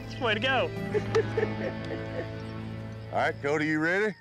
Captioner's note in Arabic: ضحك